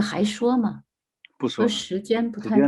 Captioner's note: speaking in foreign language